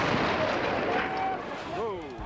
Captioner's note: explosion